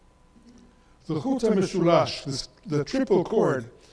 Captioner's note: speaks in foreign language